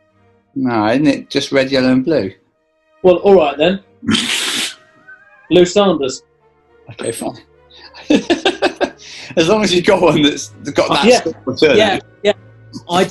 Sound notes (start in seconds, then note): 4.0 sniggering; 7.8 laughing